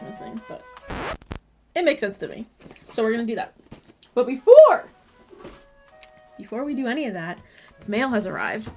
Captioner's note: record scratch